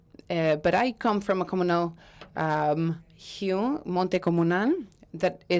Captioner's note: speaking in Spanish